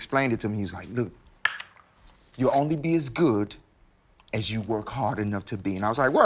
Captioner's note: clap?